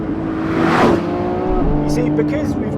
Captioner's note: car whooshes past